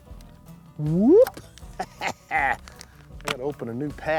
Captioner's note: laughs